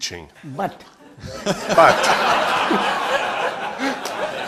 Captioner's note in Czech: smích